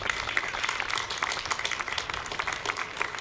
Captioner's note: applause